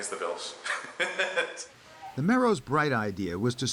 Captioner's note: laughter